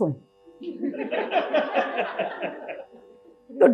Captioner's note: audience laughs